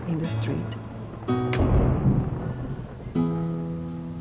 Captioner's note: thunder